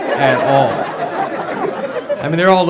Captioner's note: audience laughs